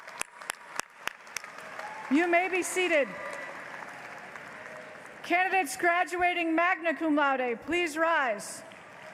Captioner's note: applause